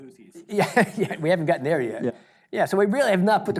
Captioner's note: chuckles